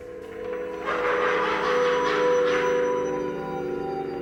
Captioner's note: demonic laughter, distorted music